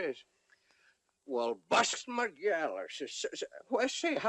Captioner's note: stammering